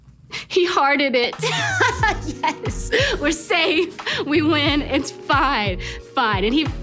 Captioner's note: laughs